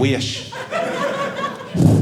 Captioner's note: audience laughing